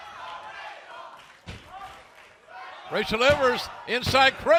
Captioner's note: fans chanting